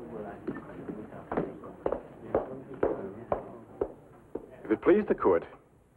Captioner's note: inspector's footsteps